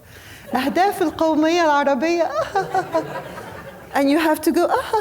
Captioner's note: laughs; speaking foreign language